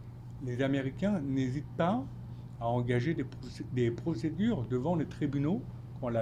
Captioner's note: speaking French